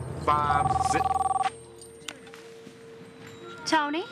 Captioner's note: phone rings